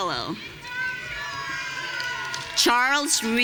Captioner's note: audience cheering